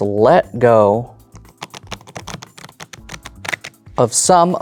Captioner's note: cards riffling